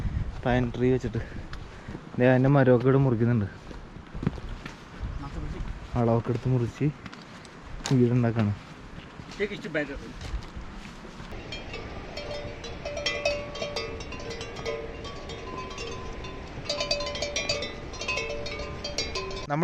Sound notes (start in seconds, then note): 11.3 cow bells